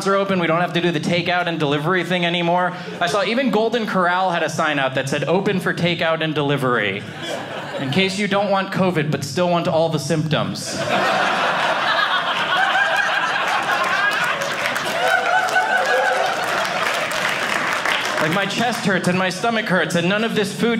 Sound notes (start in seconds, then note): 10.6 audience laughing; 13.7 audience cheering